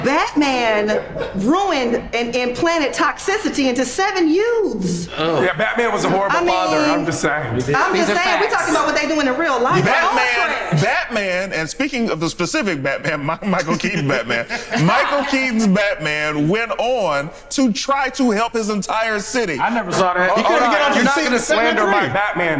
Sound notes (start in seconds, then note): 13.1 laughs; 20.5 overlapping chatter